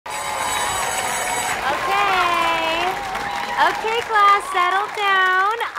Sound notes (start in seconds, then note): 0.0 school bell ringing